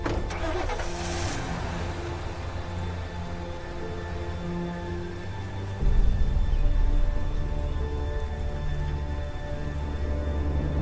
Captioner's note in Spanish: Motor en arrancando